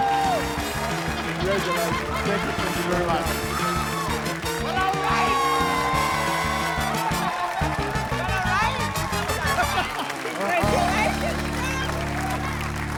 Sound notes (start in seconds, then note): 9.7 laughter, applause